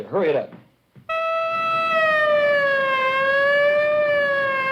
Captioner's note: sirens wailing